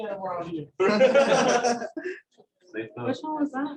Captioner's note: laughter